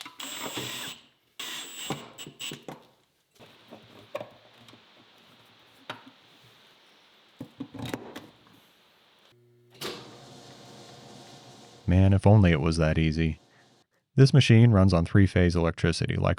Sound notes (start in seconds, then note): 0.0 drill whirring